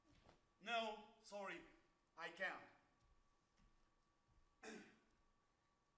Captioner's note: coughs